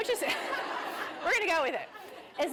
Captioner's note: laughter